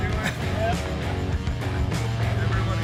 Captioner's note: laugh